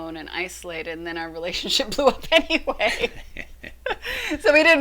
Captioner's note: laughing